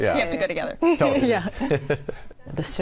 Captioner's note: chuckles